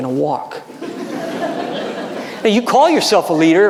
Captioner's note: audience laughing